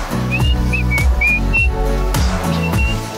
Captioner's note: whistles